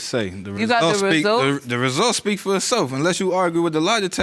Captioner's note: none